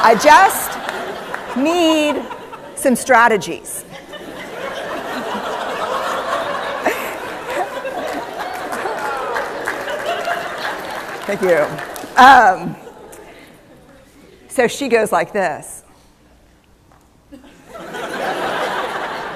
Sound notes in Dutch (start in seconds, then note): 3.8 Gelach; 7.2 Applaus; 17.3 Gelach